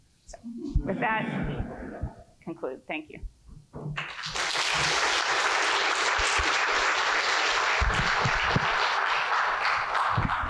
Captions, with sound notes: So with that, I conclude. Thank you. [APPLAUSE]